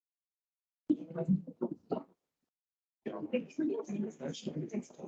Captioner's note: crowd chattering